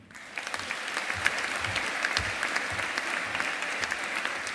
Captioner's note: audience applauding